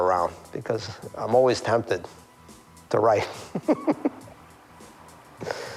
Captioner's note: chuckles